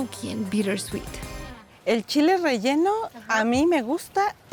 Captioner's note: speaking Spanish